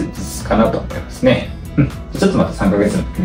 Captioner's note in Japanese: 咳払い